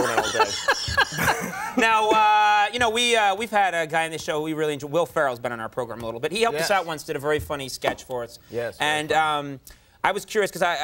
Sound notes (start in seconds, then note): 0.0 laughing